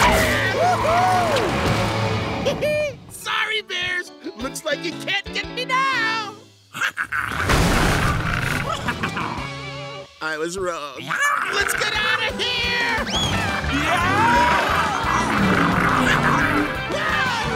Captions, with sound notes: Woo hoo! He he, sorry bears, looks like you can't get me now! [growling] I was wrong. Let's get outta here! [yelling]